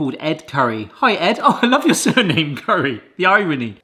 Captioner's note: laughs